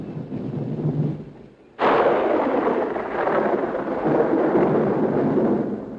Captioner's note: thunder roaring and rumbling